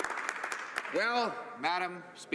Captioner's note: applause